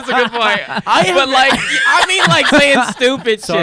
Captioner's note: laughing